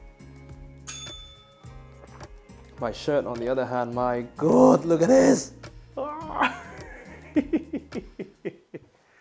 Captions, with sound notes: [bell rings] My shirt on the other hand, my God, look at this. [laughs]